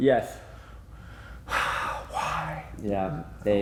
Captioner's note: sighs